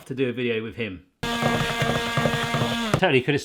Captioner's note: blender buzzes